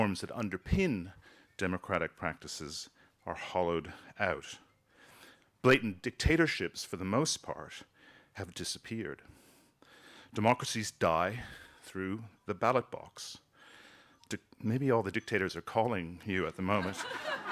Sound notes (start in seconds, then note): 15.1 phone chiming; 16.6 people laughing